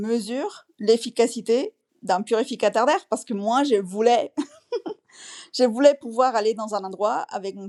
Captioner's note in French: rires